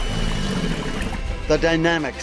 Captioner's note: bird sq waking; alligator growling